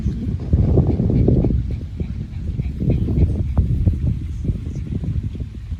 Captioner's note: wind blusters loudly